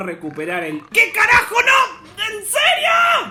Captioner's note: obnoxious snoring